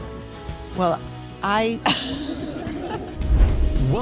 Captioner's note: laughter